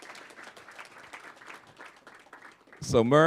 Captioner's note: applause